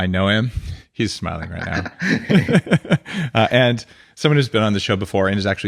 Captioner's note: laughing